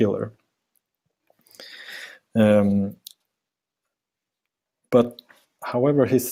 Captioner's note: pause